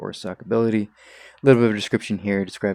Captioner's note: sucks in air